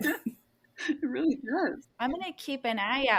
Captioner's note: laughs